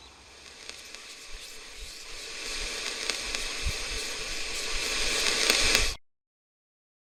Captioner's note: static and whispers?; silence